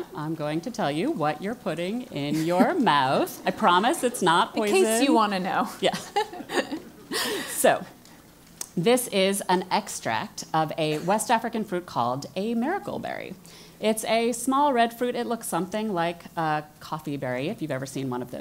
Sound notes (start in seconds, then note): 5.7 laugh